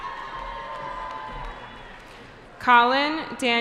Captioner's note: cheering